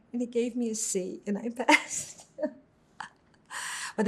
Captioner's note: laughing